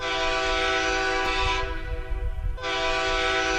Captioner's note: horn blasts